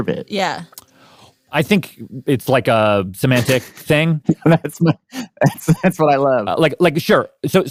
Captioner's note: laughs